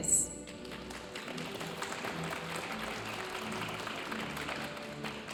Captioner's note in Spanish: aplausos de la audiencia